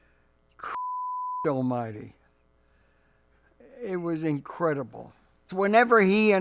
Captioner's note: beep